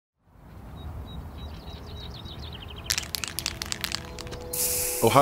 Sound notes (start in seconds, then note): 0.4 birds chirp; 2.8 can rattles